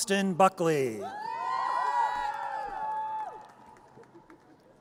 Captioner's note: audience cheers